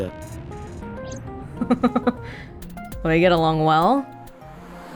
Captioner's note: chuckles